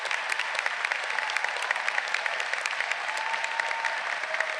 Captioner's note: audience cheering